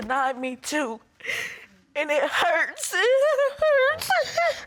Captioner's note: sobs